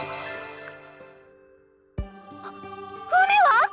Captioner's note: silence